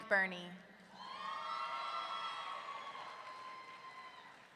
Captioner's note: audience cheering